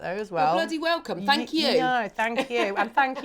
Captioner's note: chuckles